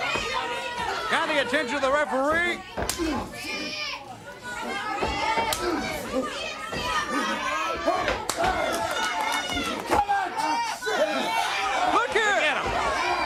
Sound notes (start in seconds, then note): 4.2 crowd cheering; 5.3 crowd chatter